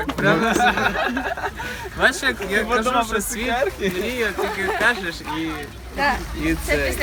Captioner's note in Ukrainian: загальний сміх та нерозбірлива мова